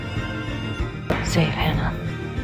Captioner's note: voiceover